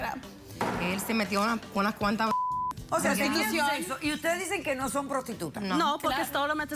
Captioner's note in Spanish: Bip